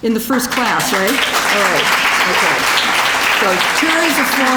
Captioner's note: applause